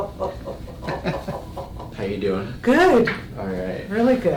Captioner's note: laughs